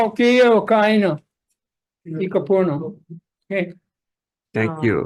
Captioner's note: man speaks foreign language